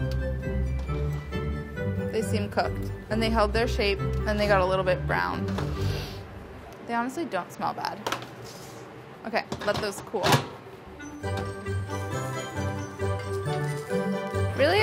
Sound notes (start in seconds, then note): 5.8 sniffs; 11.0 upbeat music